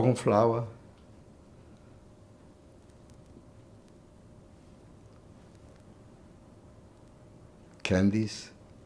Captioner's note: pauses 6 seconds